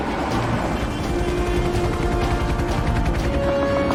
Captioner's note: helicopter approaching